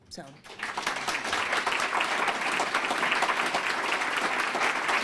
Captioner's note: applause